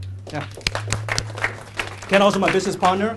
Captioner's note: applause